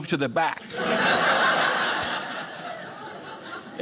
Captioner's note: audience laughing